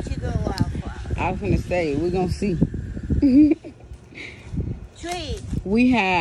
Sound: giggles

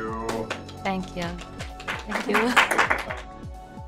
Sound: people in the background applauding

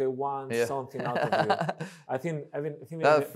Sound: laughs

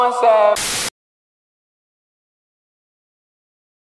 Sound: static

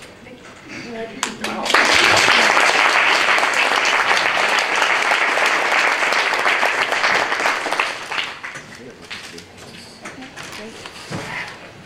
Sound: applause

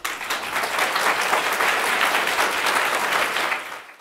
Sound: audience applauds

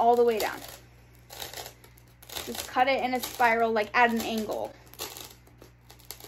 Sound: cutting

